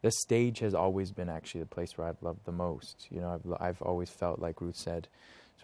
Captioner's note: none